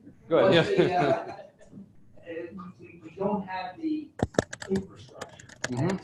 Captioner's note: laughter